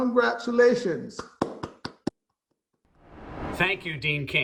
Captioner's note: clapping